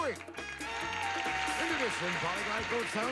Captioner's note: audience applauding